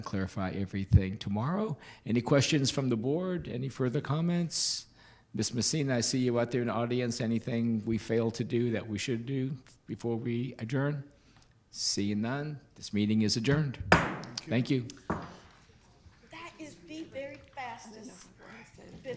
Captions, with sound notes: and clarify everything tomorrow. Any questions from the Board? Any further comments? Ms. Macine, I see you out there in the audience. Anything we failed to do that we should do before we adjourn? Seeing none, this meeting is adjourned. (knocking) Thank you. - That is the very fastest business